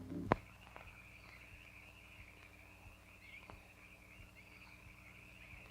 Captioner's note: frogs croak and crickets chirp